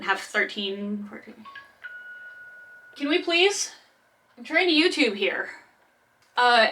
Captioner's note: phone rings